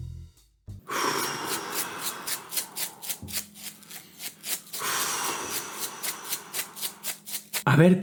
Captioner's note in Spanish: Resoplidos y muellesitos